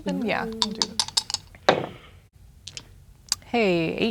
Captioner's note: dice rolling; dice rattling